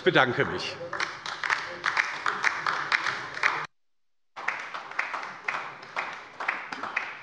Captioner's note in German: Beifall bei der LINKEN